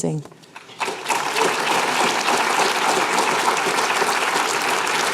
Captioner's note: applause